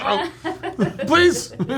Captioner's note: laughing